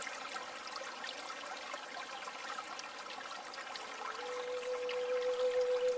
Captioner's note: water trickling; soft flute music